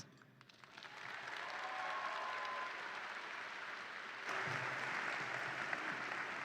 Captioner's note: audience applauds and cheers